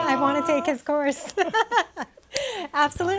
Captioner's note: laughing